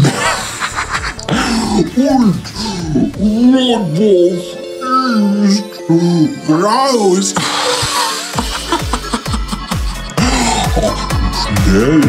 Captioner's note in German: lach